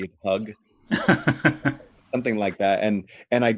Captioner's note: laughs